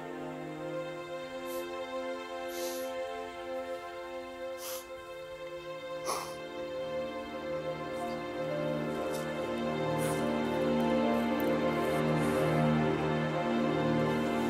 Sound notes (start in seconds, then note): 6.1 Matt crying; 6.1 somber music